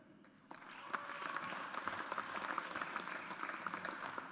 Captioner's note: audience applauds